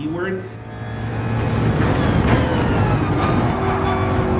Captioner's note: engines revving, cars noises